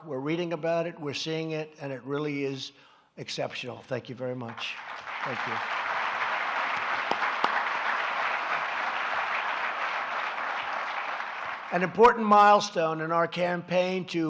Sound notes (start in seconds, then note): 6.1 applause